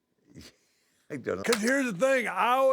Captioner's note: laugh